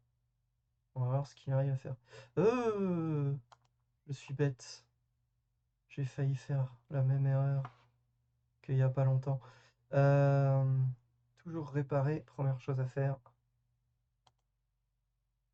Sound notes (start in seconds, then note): 2.4 pathetically whimpers in panic